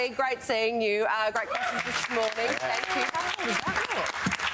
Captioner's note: crowd applause